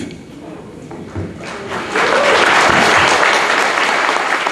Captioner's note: audience clapping